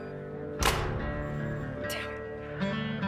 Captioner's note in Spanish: Ruido al tirar el auricular